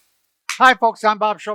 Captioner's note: hands clap